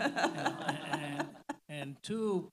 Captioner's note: all laughing